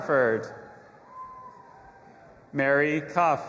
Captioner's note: audience applauding and cheering